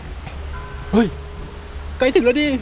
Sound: เสียงระฆัง

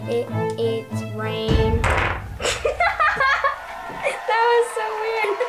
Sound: laughter

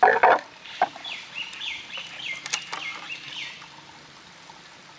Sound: birds chirping

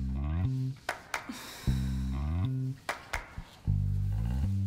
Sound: exhales and sighs

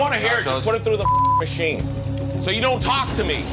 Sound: beep

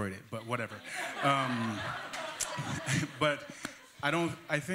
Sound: laughter

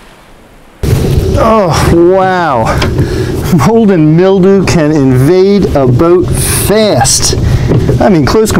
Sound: waves lapping

